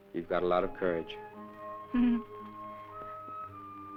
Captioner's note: laughs